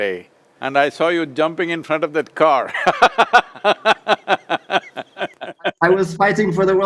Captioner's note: laughs